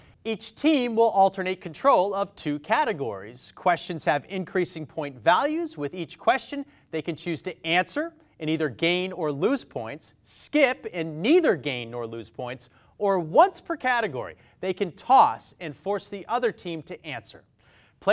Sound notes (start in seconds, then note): none